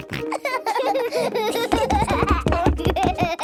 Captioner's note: both laughing